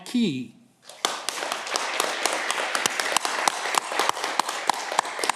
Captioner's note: audience clapping